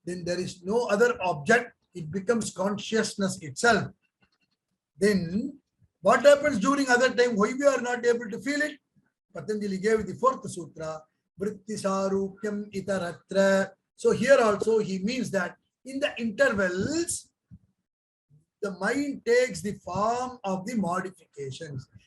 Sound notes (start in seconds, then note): 10.7 speaks in Hindi